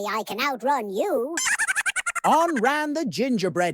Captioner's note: high-pitched laugh